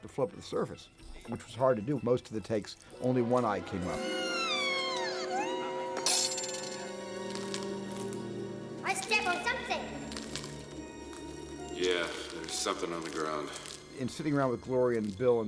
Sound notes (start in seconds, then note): 4.1 screaming; 4.1 whimpering; 7.2 crunching underfoot